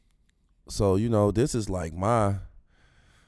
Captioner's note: exhales